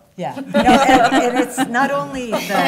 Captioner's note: laughter